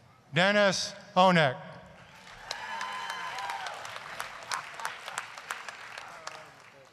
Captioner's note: applause, cheering